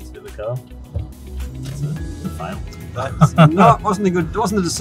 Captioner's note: laughs